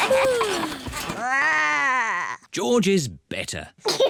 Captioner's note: growls; yawns; giggles